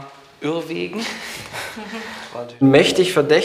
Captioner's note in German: Lachen